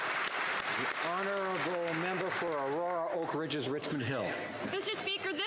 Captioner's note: applause